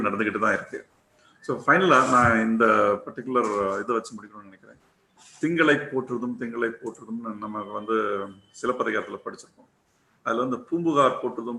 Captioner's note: in tamil